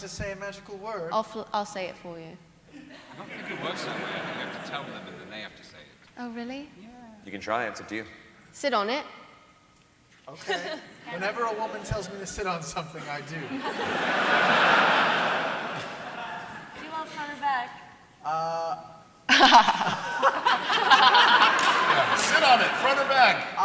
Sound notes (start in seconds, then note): 13.5 laughter